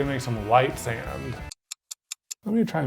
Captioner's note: clock ticking